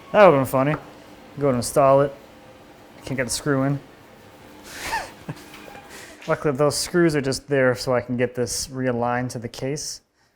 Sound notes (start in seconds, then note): 4.7 laughing